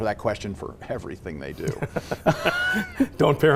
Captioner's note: laughter